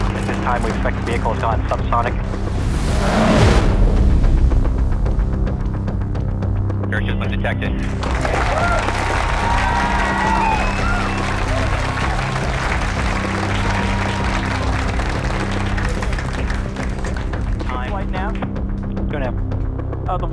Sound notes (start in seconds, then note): 2.2 wind whooshing; 4.5 upbeat tension music; 8.1 crowd clapping and cheering